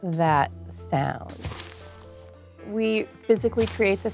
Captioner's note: crunching